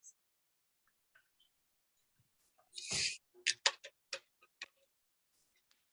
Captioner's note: soda bottle fizzing